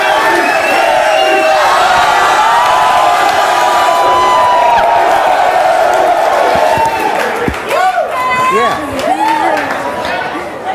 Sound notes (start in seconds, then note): 2.4 audience cheering